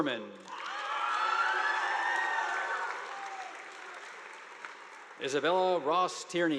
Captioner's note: students cheering; audience applauding